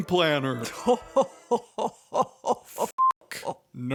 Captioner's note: Phasma laughs evilly